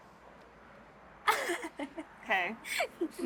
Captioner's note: Sadie laughs